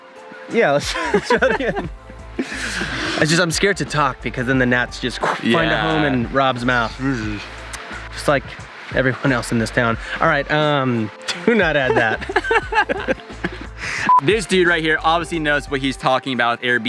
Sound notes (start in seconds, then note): 0.8 laughing; 11.2 laughing; 14.0 marker beep